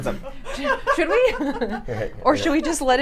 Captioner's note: laughs